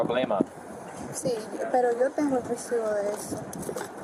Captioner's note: speak in Foreign language